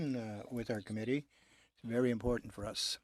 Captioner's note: speaking French